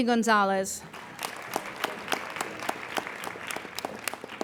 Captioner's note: applauding